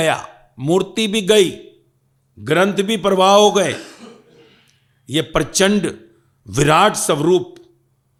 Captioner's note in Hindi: गला साफ़ करने की आवाज़